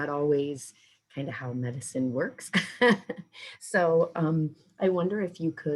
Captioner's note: chuckling